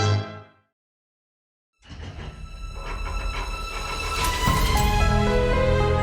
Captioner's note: vault clacking and droning